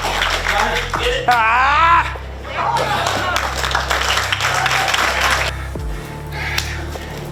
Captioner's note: audience clapping; breathes heavily; both grunting; audience clapping; both breathing heavily